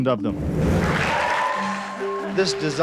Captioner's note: applause